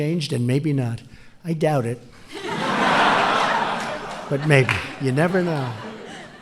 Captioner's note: laughter